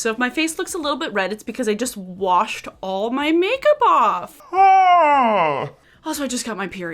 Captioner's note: exclaims